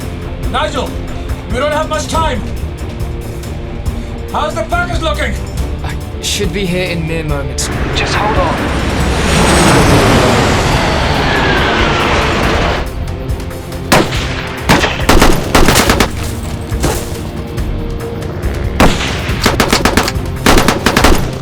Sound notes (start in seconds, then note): 0.0 planes flying; 7.5 jets fly; 13.9 gunfire; 18.8 gunfire continues